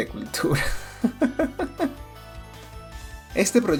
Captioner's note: laughter